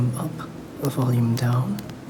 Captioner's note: click